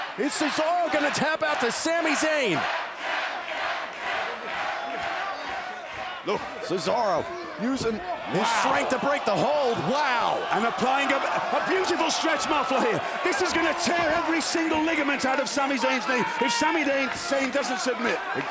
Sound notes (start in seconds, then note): 2.7 crowd chanting